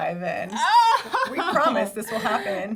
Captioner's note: laughs